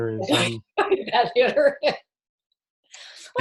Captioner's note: laughing